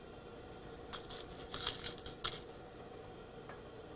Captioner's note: rattling of fabric pins